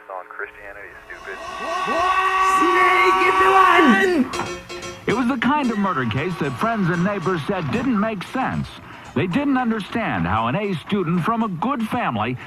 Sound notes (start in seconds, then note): 2.9 speaker screaming backwards; 4.0 upbeat music